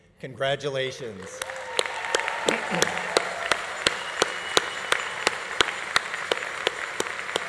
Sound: audience applauding; audience cheering

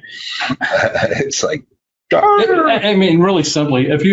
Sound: laughs

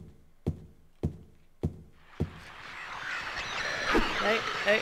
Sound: radio static

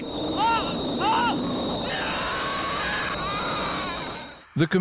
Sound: villager screaming

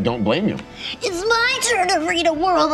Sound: imitates child's voice

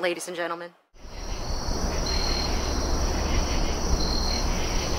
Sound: insects chirping

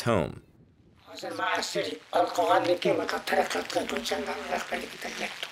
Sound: speaks in foreign language

